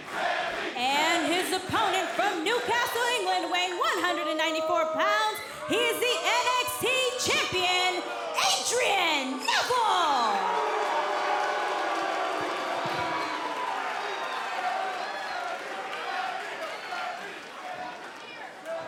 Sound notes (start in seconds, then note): 0.0 fans chanting; 12.8 cheers & boos